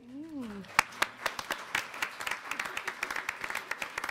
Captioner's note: applause